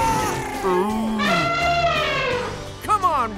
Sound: animal noises; elephant trumpets

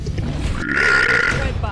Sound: mega burp

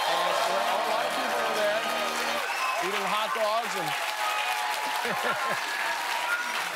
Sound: cheers and applause

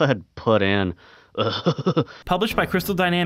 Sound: giggles

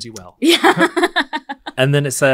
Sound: laughs

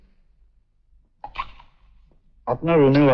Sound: slurps

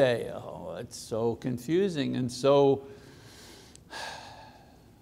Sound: sighs

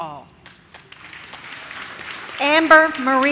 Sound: audience claps

